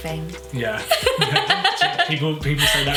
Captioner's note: laughs